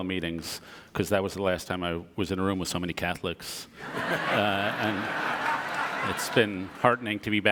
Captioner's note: audience laughter